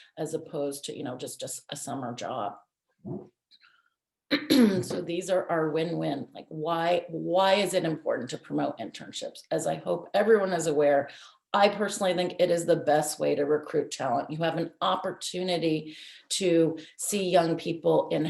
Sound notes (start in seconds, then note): 2.9 clears throat